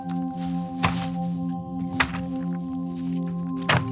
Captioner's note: thumps